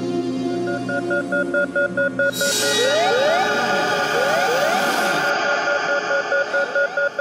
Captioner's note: eerie music; ominous music continues; alarm ringing